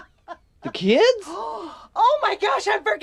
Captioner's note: Mrs. McDonald laughing; Mrs. McDonald gasps